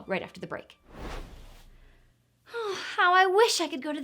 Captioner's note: air whooshing